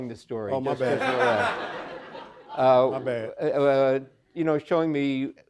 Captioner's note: audience laughing